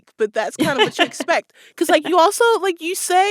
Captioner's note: laughter